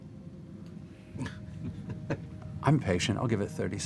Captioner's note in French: rires